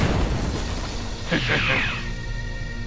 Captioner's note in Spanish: Risas